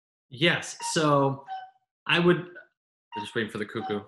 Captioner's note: cuckoo clock chirps